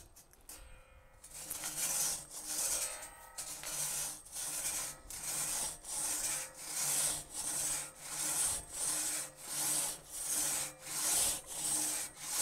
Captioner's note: metal scraping on wood